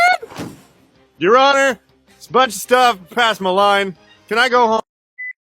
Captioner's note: thump